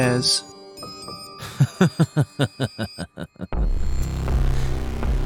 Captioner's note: laughs darkly